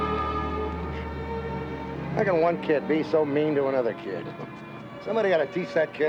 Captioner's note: huffs